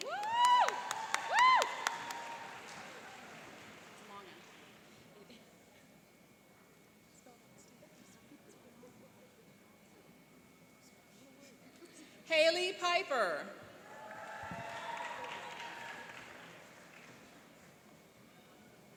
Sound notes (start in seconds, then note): 0.0 cheering and applauding; 13.8 cheering and applauding